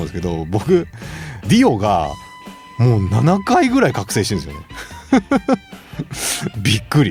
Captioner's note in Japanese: 笑い